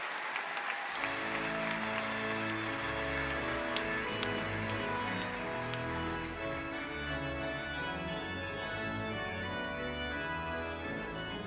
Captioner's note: applause